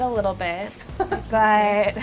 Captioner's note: laughing